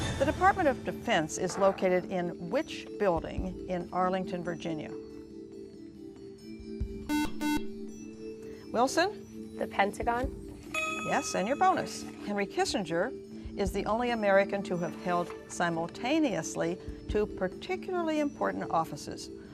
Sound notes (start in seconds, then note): 5.2 ethereal music; 7.0 beep